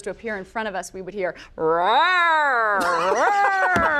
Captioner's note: mimics dinosaur roaring; laughs